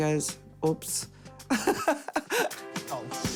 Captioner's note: laughs